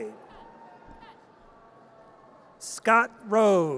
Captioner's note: audience cheers